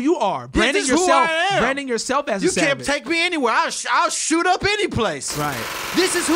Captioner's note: gunshots